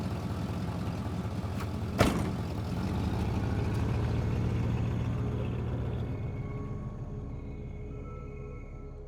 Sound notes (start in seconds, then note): 2.0 car door slams shut; 3.1 car engine continues rumbling; 5.3 eerie suspenseful music